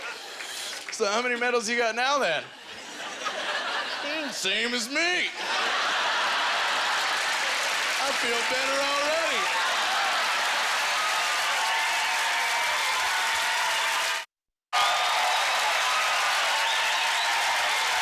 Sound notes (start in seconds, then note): 5.3 audience laughter; 6.0 audience applause; 8.7 audience cheers and applause; 14.7 audience cheers and applause